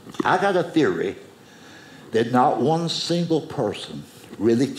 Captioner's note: none